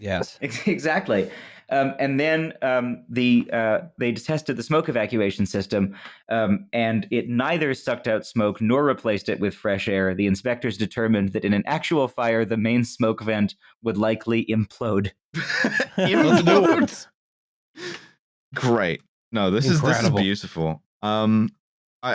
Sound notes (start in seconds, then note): 15.3 laughter; 15.4 laughing